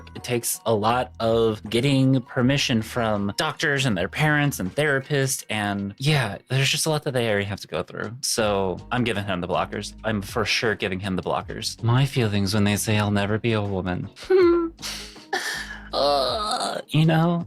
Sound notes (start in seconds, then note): 15.3 laughs; 15.5 groans